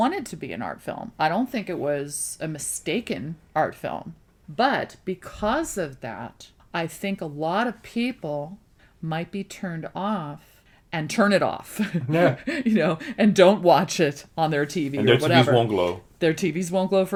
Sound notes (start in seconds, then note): 11.8 laughs